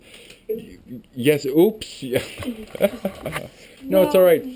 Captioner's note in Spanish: Risas